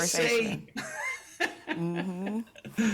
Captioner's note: laughs